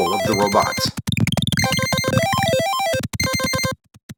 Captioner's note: low pitched warble